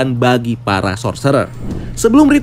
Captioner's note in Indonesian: suara transisi